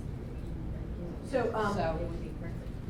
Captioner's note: voiceover